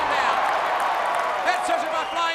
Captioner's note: crowd cheering